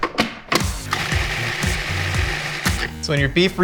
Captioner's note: food processor whirs